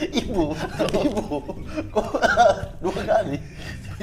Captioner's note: laughing